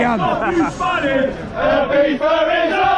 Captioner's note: crowd